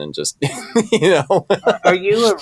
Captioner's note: laughing